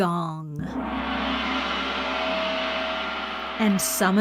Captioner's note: gong ringing